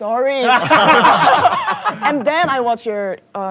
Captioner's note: employee laughing loud